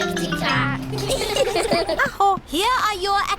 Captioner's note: all giggle